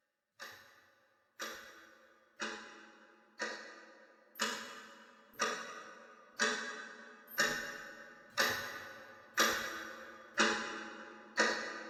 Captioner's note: clock Ticking